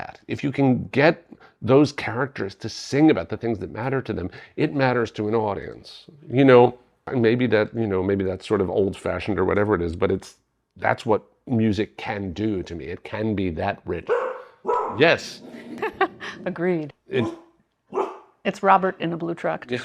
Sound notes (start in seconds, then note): 14.0 barking; 15.2 growling; 15.4 laughing